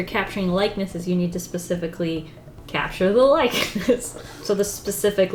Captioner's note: laughs